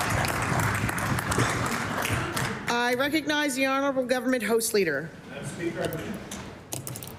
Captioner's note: applause